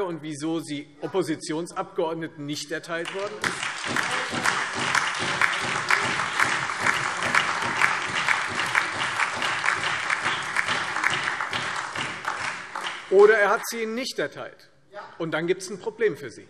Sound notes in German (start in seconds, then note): 3.0 Beifall Freie Demokraten, SPD, DIE LINKE und AfD